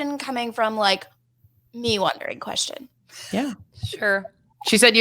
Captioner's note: laughs